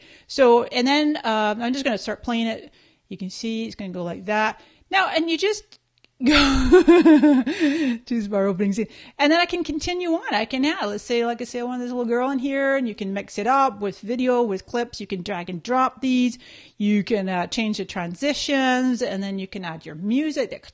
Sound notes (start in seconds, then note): 6.3 laughing